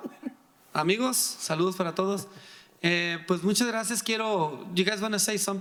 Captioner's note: speaking in foreign language